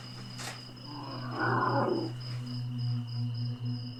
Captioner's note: grunting